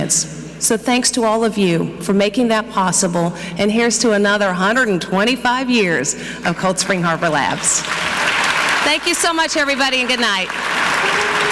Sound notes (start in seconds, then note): 7.2 audience clapping